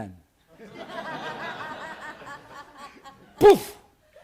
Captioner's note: chuckling